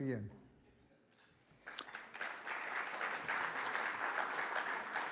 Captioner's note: audience applauds